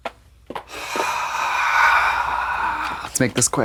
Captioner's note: Trixie sighs